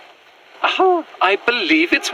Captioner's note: recording begins. footsteps across field. nature atmos continues through scene